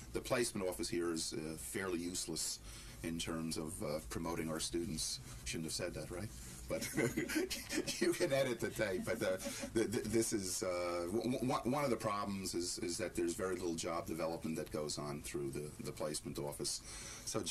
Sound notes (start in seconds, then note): 6.7 laughter